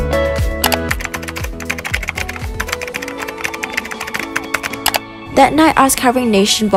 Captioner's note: keyboard Clicking & Typing